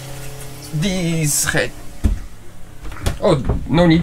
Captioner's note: faucet